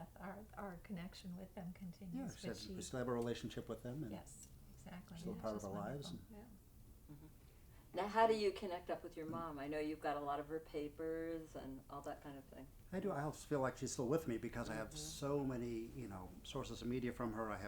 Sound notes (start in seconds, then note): none